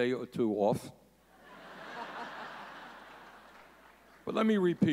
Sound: audience laughing

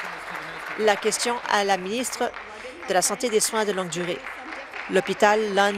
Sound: applause

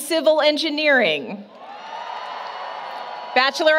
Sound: applause, Cheering

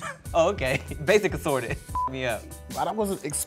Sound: beep

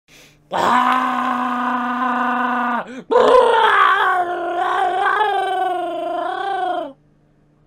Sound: growling

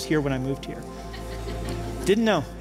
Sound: laughter

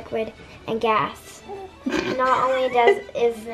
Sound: laughing

